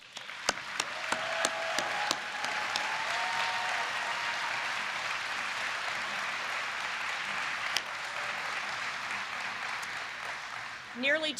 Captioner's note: applause